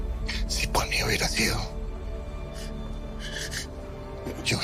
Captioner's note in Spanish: Sollozos